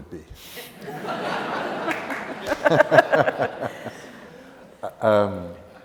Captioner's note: laughter